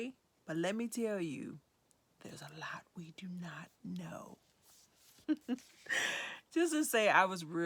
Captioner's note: whispering; chuckles